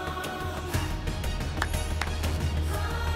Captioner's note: clapping